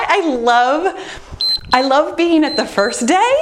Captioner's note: laughs; timer beeps